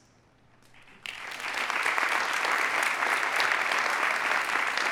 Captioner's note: audience applauding